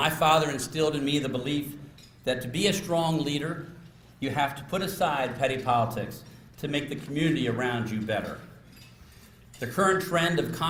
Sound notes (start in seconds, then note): none